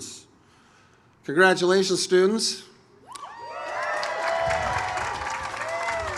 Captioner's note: audience cheers